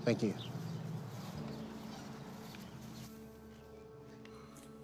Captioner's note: birds chirping